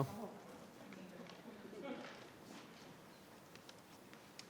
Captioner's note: people murmuring